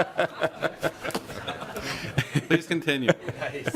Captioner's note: lauging